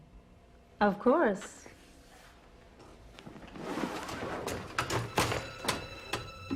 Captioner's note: box clattering; eerie suspenseful music